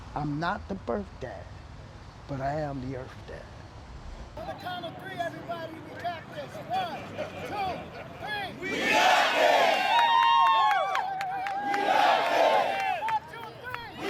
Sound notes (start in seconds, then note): 8.6 women cheer; 8.7 crowd; 11.9 crowd